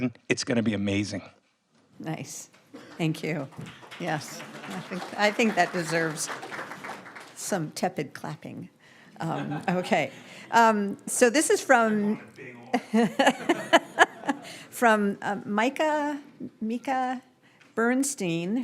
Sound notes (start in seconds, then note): 4.5 audience applauds; 12.7 laughs